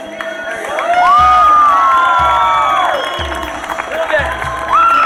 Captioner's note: thrilling music; audience cheering and applauding